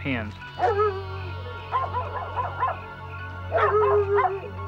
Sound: barking

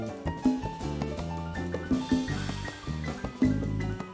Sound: none

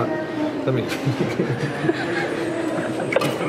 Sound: laughing

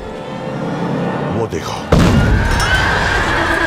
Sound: explosion

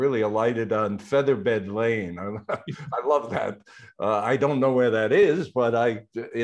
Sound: chuckles

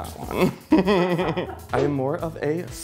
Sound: laughs

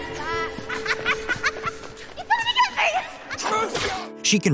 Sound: laughing

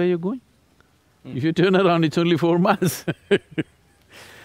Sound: laughs

